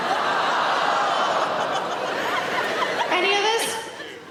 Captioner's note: audience laughing; audience gasp